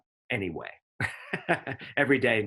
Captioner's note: chuckles